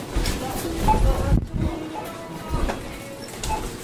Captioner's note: checkout beeping; cart rattling